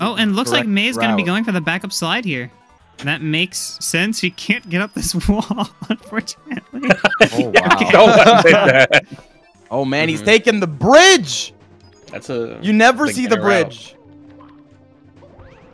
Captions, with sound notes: Oh, and it looks like May is going to be going for the backup slide here. That makes sense. She can't get up this wall, unfortunately. Oh, wow. (group laughter) Oh man, he's taking the bridge. You never see the bridge.